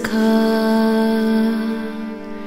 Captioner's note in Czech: none